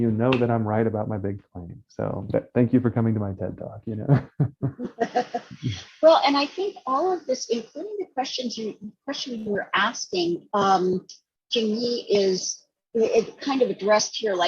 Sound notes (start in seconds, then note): 3.9 laughing